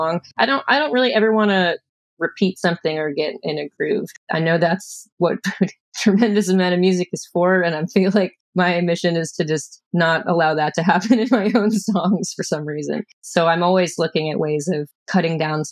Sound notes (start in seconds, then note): 10.7 laughter